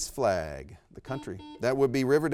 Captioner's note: buzzer beeps